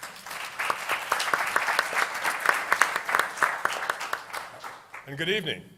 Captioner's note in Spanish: Aplausos